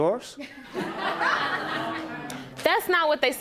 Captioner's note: laughter